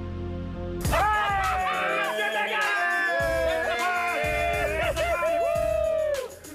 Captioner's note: cheers